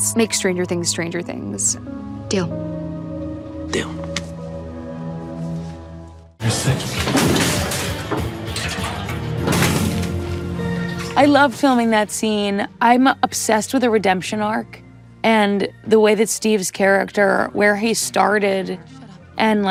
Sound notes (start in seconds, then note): 6.4 gas cans clanging